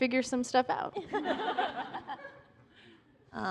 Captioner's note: laughter